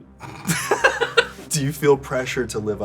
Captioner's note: laughter